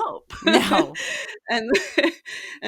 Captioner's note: laugh